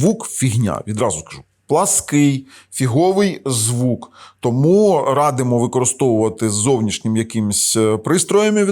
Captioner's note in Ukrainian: сопіння